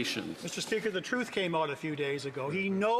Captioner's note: some Applause